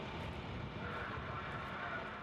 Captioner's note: man's voice on loudspeaker